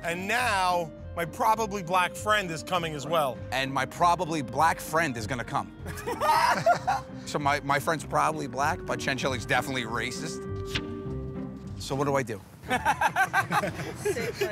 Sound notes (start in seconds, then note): 5.8 laughter